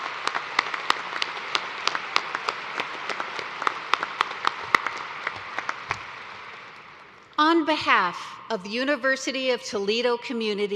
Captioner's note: cheers and applause